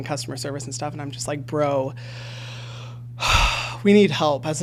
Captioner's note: sighs